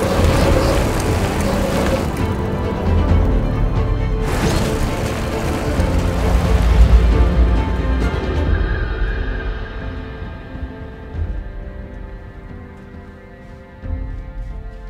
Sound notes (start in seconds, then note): 0.0 bikes whizzing; 8.6 gentle music